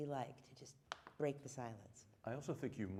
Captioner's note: snapping